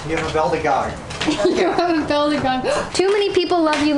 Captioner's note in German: Lacht